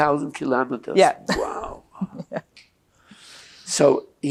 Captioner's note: laughing